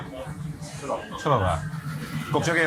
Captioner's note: food reviewer speaks in foreign language; chef and food reviewer speak in foreign language; food reviewer speaks in foreign language